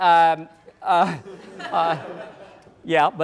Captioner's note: laughter